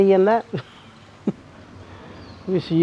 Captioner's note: chuckle